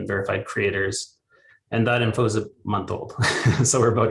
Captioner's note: chuckles